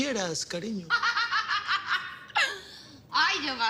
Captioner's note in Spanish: Carcajada